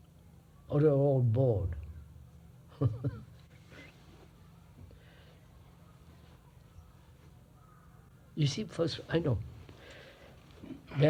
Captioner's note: laughs